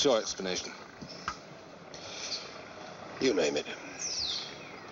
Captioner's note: exhales